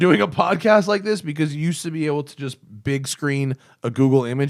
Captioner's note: laughter